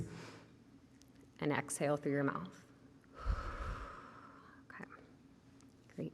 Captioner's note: inhales; exhales